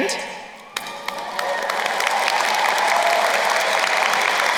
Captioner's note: crowd applauding